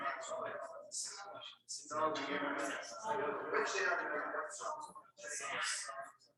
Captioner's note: people chattering indistinctly